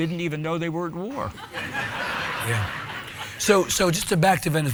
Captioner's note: audience laughing